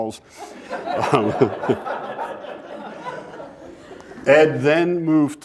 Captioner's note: laughter